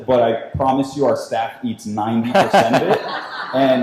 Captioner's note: laughing